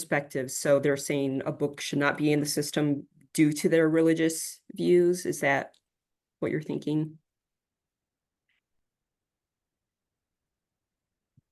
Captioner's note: no sound waiting for answer in chat